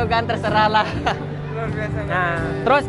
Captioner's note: laughs